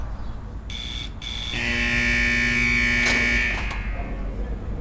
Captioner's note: siren and then sound of gate unlocking